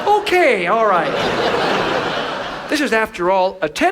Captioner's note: audience laughs